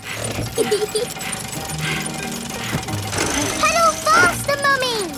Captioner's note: mummy pig panting; peppa laughing